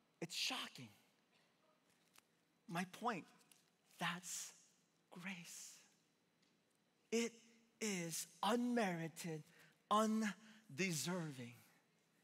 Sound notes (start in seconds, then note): none